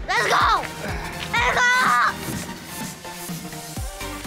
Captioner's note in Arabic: يصرخ; موسيقى مبهجة تبدأ